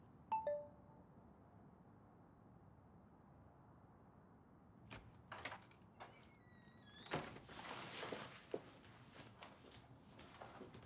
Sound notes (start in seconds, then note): 6.0 door creaking